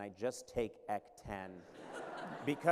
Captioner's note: laughter